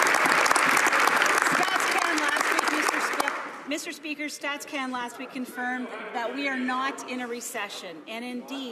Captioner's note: some Applause